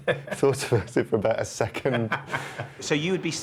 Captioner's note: laughing